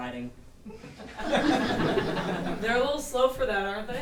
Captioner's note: audience laughing